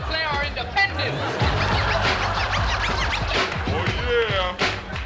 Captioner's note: audience laughs